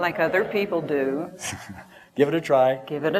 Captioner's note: laughter